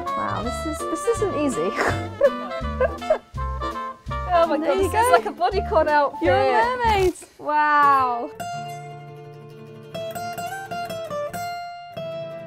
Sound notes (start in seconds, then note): 1.7 laughter; 8.9 spanish guitar music